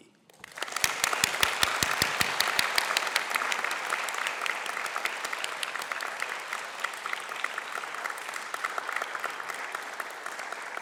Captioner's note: applause